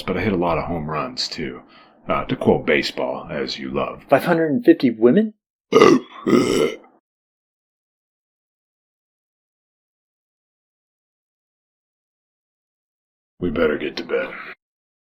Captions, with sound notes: but I hit a lot of home runs, too. Uh, to quote baseball, as you love. 550 women? [burps] [silence] We better get to bed.